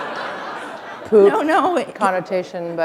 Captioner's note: laughter